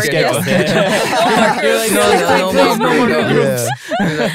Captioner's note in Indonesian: tertawa